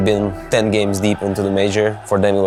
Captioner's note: crowd cheering